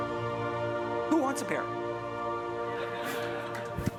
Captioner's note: chuckles